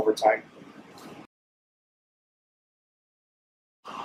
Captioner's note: silence